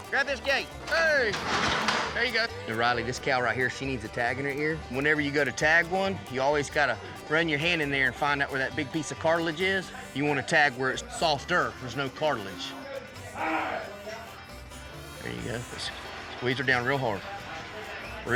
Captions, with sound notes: GRAB THIS GATE! [CHUTE SHUTS] THERE YOU GO. RILEY, THIS COW RIGHT HERE, SHE NEEDS A TAG IN HER EAR. WHENEVER YOU GO TO TAG ONE, YOU ALWAYS GOTTA RUN YOUR HAND IN THERE AND FIND OUT WHERE THAT BIG PIECE OF CARTILAGE IS. YOU WANT TO TAG WHERE IT'S SOFTER -- THERE'S NO CARTILAGE. THERE YOU GO. SQUEEZE HER DOWN REAL HARD.